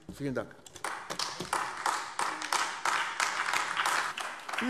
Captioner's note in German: Beifall AfD